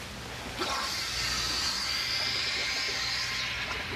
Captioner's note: hissing air